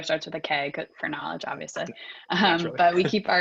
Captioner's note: laughs